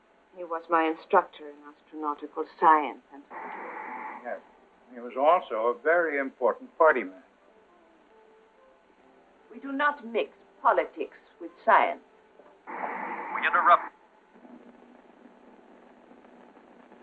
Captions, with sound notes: He was my instructor in astronautical science and... Yes, he was also a very important party man. We do not mix politics with science. [Man on radio] We interrupt--